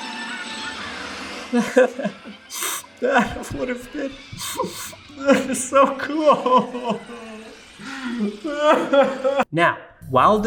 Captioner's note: Web cries